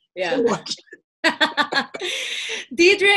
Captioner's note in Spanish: Risas